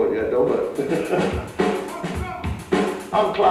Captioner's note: laughs; upbeat drumming